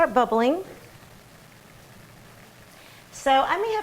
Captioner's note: sound of water simmering